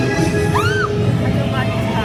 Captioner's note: spooky music; guest screaming; guest faintly speaking